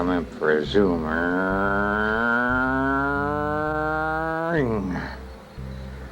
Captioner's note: imitating vehicle driving